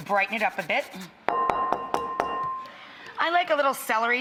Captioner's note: bowl clanking